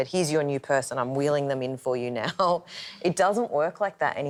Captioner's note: laughs